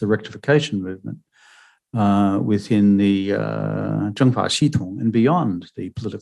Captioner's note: speaking mandarin